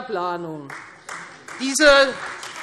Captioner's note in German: Beifall Freie Demokraten